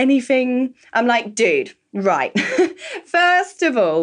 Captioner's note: laughs